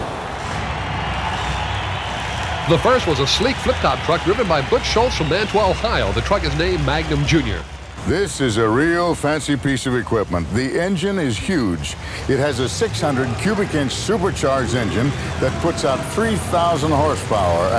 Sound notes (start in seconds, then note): 4.0 voiceover; 9.5 voiceover; 11.9 engine revving; 13.9 audience cheering